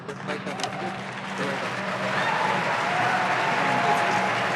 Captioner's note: audience applauding